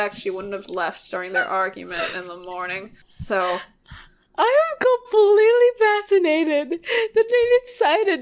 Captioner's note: laughing